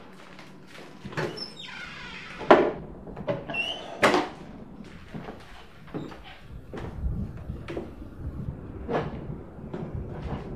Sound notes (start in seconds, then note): 2.0 creaking